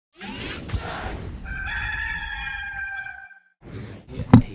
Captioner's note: rooster crowing